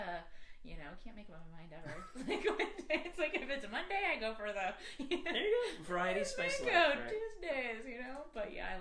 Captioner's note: laughter